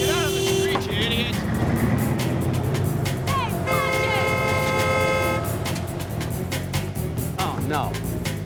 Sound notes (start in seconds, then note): 4.7 car horn blaring